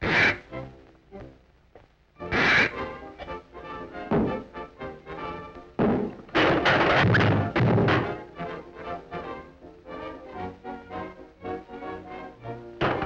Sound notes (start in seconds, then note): 2.7 cheerful orchestra music; 5.7 thumps and crashes